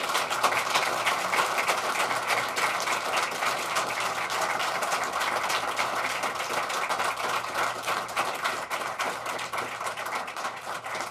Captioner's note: applause